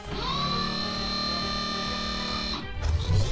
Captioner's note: ship door closing